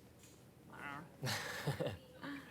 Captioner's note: Riéndose